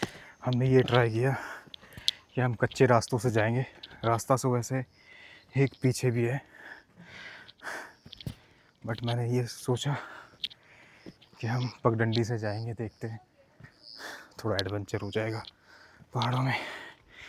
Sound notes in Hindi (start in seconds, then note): 6.4 गहरी सांस लेने की आवाज़